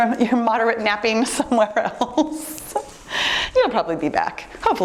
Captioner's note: laughs